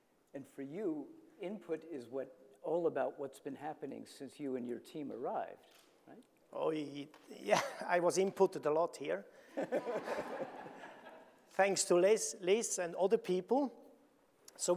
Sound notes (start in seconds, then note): 9.6 audience laughing